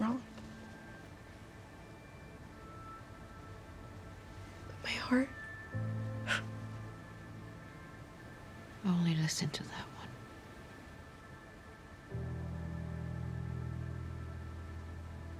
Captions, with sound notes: wrong, but my heart-- [SCOFFS] Only listen to that one. [GENTLE MUSIC]